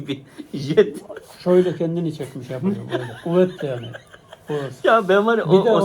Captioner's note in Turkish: kahkaha